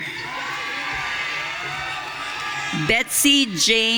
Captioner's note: audience cheering